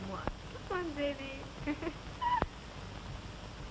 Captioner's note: laughs